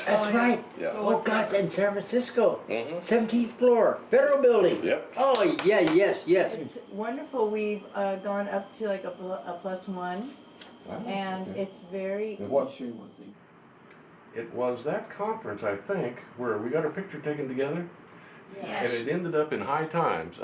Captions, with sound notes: - That's right! Oh god, in San Francisco! 17th floor, barrel building! - Yep. - Oh yeah, yes! - [Voiceover] It's wonderful, we've gone up to like a plus one, and it's very... - It was that conference I think where we got our picture taken together, but it ended up in High Times.